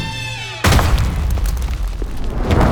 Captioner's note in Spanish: Sonido de golpe